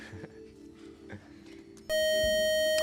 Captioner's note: time up buzzer